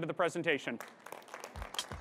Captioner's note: applause